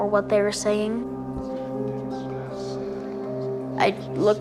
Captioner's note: voice whispering faintly